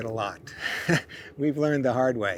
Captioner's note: laughs